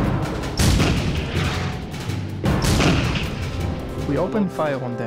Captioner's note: artillery booming